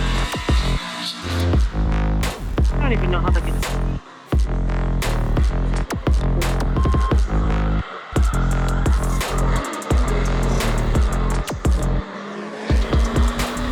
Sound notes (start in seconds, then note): 2.6 upbeat music; 3.0 engine revving